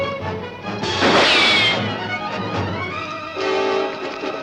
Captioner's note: dramatic music; gun firing